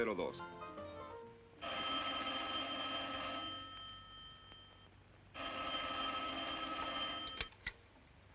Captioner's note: speaking spanish; phone rings